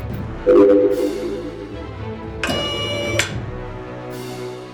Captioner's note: machine whirring